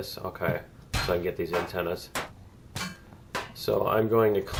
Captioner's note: pinging resumes